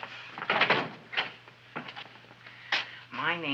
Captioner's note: door rattling